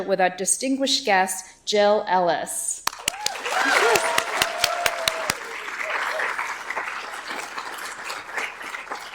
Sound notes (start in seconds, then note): 2.8 audience applauds